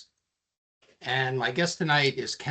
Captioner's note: none